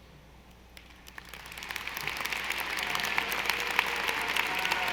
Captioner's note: audience applauding